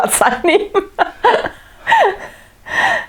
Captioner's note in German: lacht